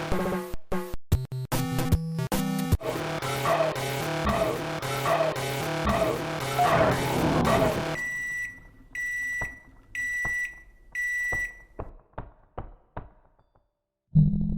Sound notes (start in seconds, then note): 2.8 Bolt ACR's ear-splitting sound effect; 6.7 microwave oven beeps